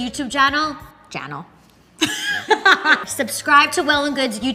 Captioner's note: laughs